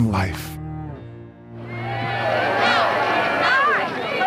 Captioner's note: crowd yelling